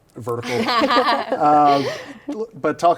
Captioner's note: both laughing